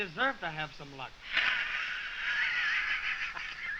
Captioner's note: guffawing